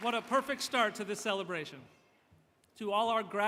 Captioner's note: applause